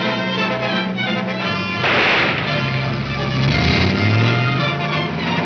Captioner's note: gunshot banging